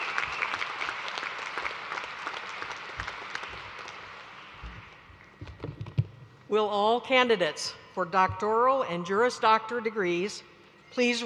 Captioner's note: applause